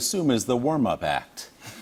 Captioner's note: laughter